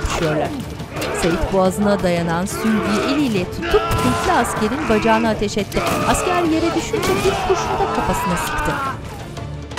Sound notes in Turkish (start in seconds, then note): 2.3 İnleme sesi; 2.5 Ikınma sesi; 5.6 Çığlık sesi